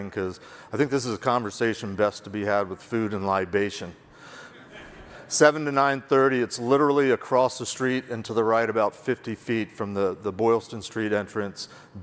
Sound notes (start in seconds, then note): 4.6 audience laugh